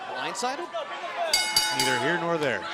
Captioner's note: bell ringing